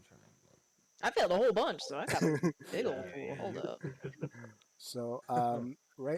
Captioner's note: laughs in agreement